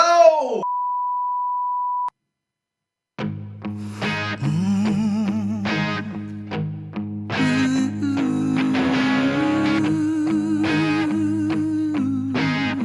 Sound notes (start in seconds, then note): 3.5 rock music; 6.5 harmonious humming